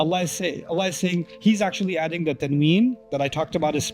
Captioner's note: Arabic